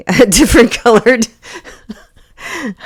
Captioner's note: laughs